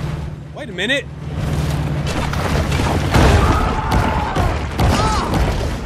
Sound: explosion and gun fire

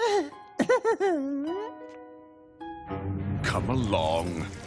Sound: nervous laughing

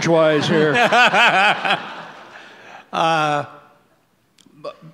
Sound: audience laughs

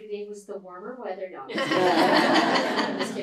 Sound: laughter

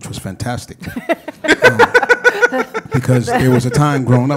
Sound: panel laughs

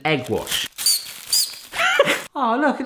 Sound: gadget squeaks; laughs

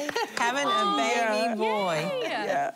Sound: laughing

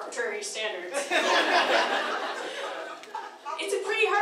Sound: laughing

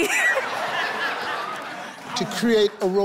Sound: audience laughing

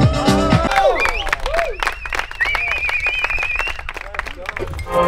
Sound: cheering

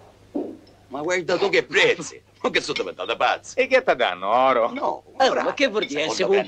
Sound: Sicilian accent

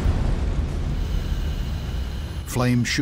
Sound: sound of explosion

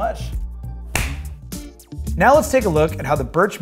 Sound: clapping

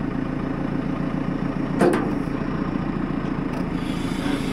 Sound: metal scraping

